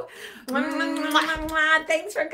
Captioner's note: blowing kisses